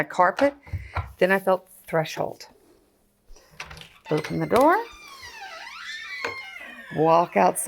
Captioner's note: squeaks